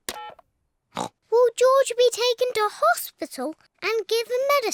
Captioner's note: oinks